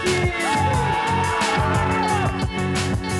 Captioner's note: cheering